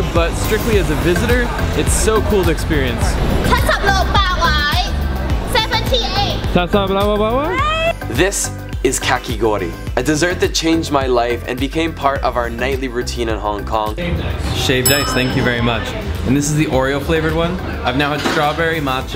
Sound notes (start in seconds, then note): 4.2 speaks foreign language; 6.7 speaks gibberish